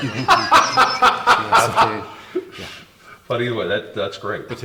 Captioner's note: laughs